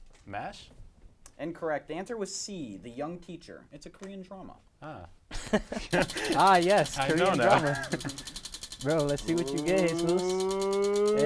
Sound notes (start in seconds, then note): 5.3 laughs